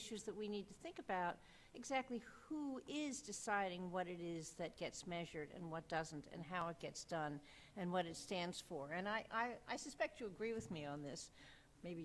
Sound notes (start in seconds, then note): none